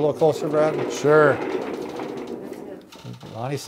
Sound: skeleton rattles

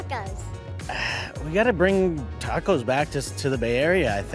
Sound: sighs

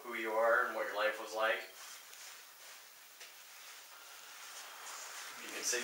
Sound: slight beeping

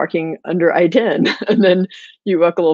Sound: laughing

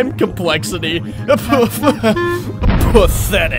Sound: laughs

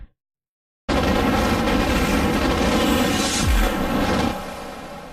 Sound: digital epic sounds

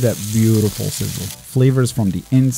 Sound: rolls sizzling

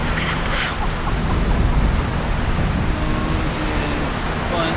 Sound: whispering

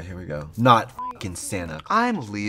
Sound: beep

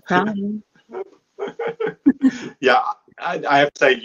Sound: laughing

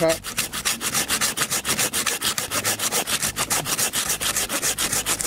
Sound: saw scrapes against wood

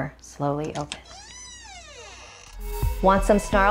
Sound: door creaking

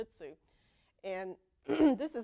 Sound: cough

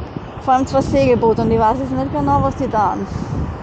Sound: engine noise

